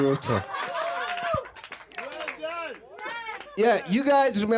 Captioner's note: laughter